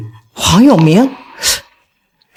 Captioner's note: gasps